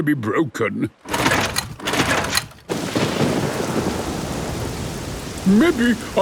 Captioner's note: engine struggling